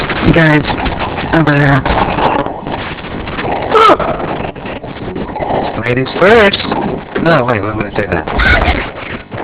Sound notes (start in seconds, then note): 4.7 Gloink Queen groaning